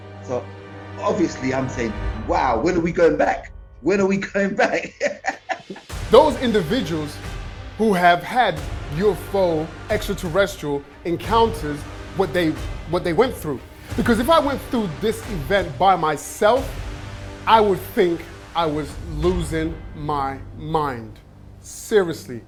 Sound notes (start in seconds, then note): 7.1 laughs